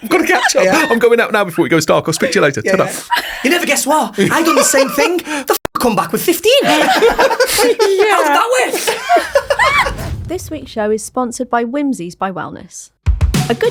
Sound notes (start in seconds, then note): 6.6 all laughing